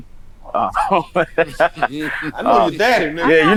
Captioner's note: laughs